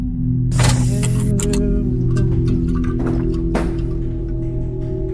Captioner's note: computers beeping; Jack humming